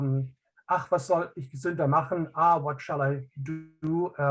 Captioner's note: speaking in native language